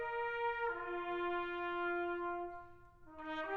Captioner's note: none